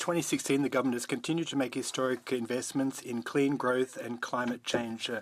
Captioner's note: speaking French